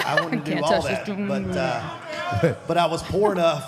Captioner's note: laughs